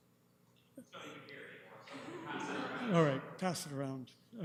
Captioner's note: clerk speaks off mic